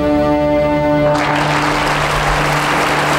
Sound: audience applauding

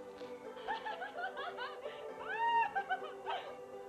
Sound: woman laughing

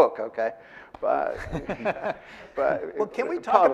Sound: audience laughing

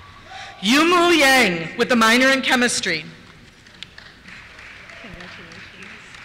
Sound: applause

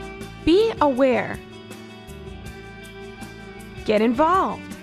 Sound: female voice-over

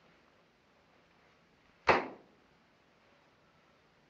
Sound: slams pictures

